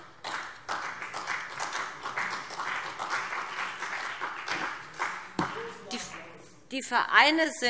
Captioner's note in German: Beifall BÜNDNIS 90/DIE GRÜNEN und CDU